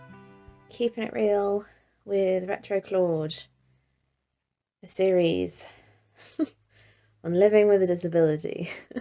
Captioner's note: chuckles